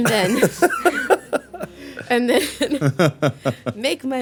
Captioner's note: laughing